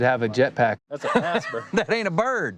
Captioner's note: laughter